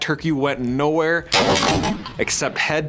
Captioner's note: gunshot